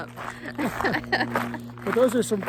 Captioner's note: both laughing